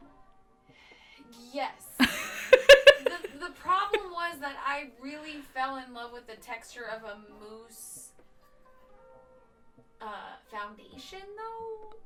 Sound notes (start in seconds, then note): 2.0 presenter laughs; 2.7 sighs